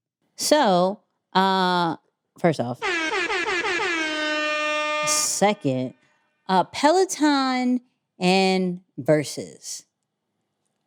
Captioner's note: air horns